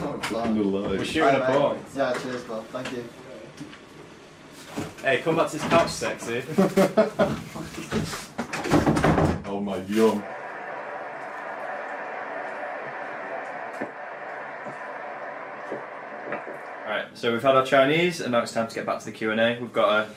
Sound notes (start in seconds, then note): 11.2 laughing